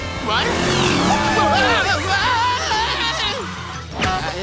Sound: yelling

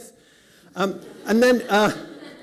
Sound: laughter

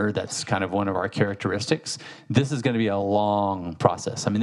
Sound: none

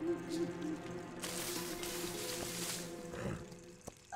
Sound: rustling

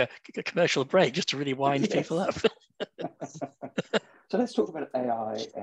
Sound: laughter

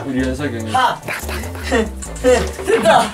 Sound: whispering

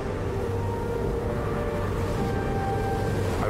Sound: brooding music continues; wind howling

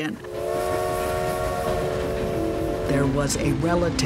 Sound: steam whistling

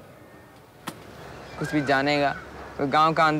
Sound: through translator

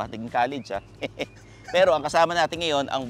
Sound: laughs

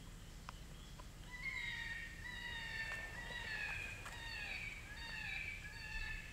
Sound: eastern Cottontail animal call

